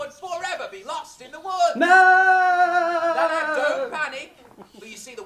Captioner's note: children scream